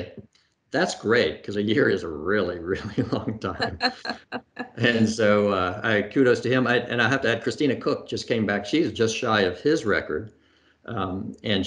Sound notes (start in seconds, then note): 3.9 laughs; 4.3 laughing